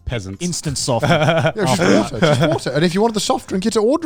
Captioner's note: laughing